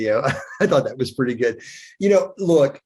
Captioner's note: chuckles